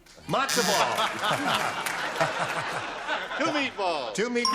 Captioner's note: laughter